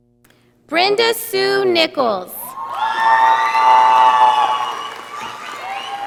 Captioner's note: audience applauding